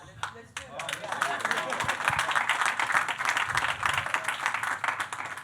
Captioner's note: audience clapping